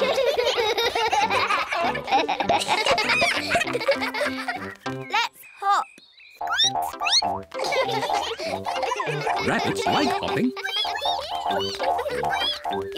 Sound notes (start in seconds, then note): 0.0 all giggle; 6.7 squeaks; 7.5 all giggle; 12.0 all squeak